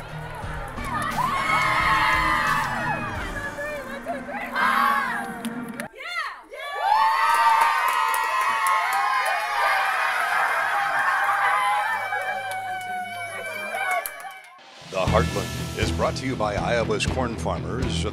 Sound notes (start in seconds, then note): 0.0 cheering; 6.0 cheering